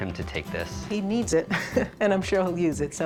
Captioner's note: chuckles